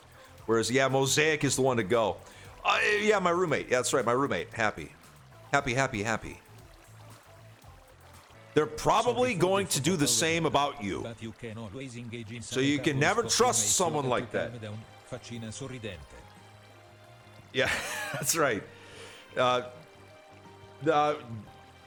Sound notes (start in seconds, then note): 12.6 cough; 17.6 laughs